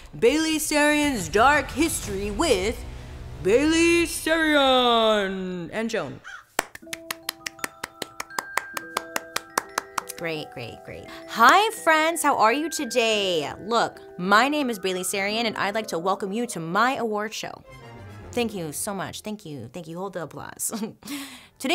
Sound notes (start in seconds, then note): 6.2 crow caws; 6.5 hand claps; 21.2 laughs